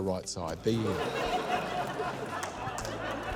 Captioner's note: laughter